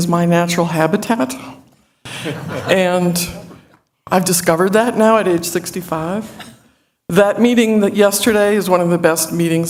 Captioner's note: laughter